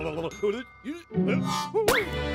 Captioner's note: grumbles